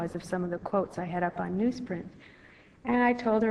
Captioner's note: none